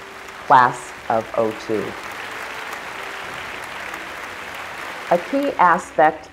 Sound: applause

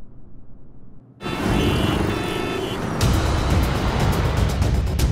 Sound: traffic noises

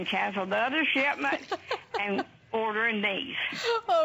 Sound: laughter

